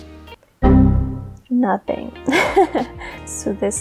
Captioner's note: computer error sound effect